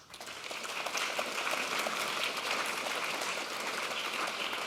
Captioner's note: audience applauds